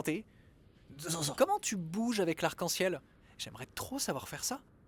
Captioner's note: disgust